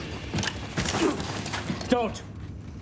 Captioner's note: moan